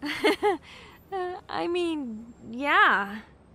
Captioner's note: laughs